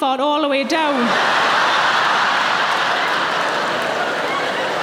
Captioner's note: audience laughing